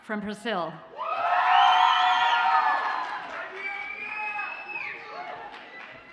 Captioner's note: audience cheers and applauds